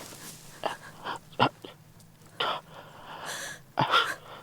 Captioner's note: Samuel struggles breathing